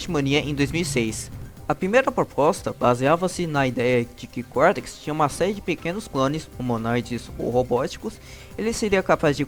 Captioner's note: humanoid or robotic